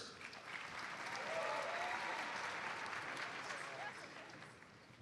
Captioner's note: audience applauds